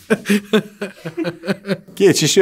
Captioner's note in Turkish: Gülüyor